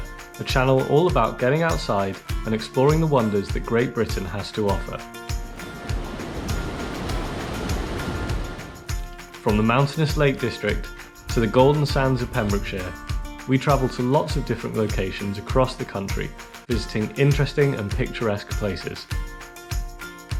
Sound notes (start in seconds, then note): 5.2 waterfall sounds